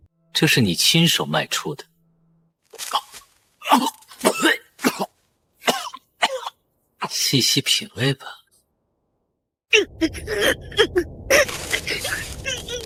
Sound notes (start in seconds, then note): 5.6 cough cough